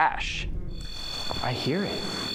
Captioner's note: beeping